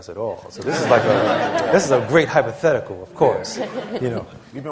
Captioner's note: laughter